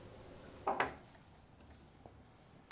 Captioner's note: rattle